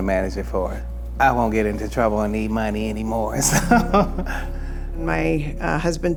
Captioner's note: chuckles